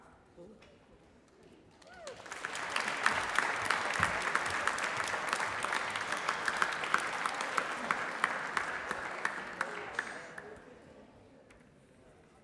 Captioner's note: applause